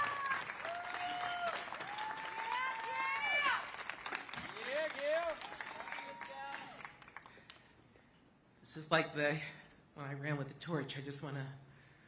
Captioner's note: cheers and applause